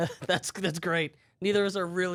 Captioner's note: laughs